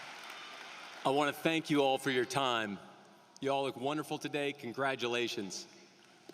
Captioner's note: cheering and applause